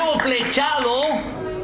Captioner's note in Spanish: aplausos